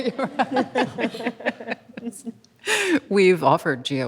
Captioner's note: panelists laugh